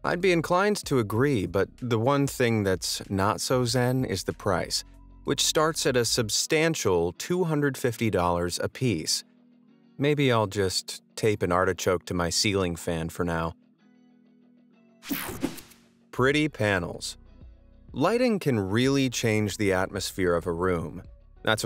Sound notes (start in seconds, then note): 15.2 air whooshing; 16.2 upbeat music